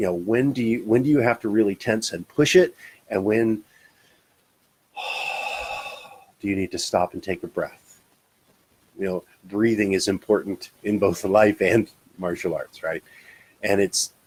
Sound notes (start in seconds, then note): 4.9 exhales